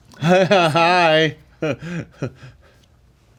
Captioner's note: awkward, forced laughing